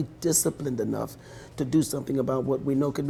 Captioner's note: voiceover